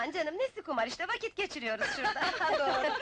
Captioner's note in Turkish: Gülüşmeler